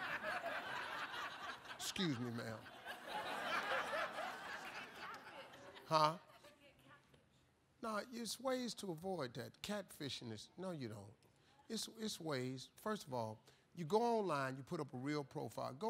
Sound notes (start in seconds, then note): 0.0 laughter